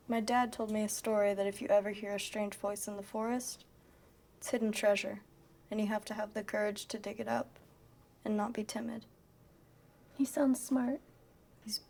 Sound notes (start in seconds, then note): none